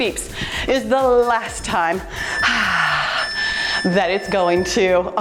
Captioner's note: timer beeps